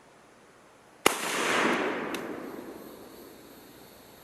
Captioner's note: gun fires